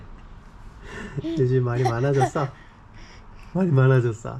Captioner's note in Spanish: Audiencia: Jajaja